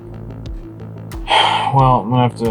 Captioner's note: sigh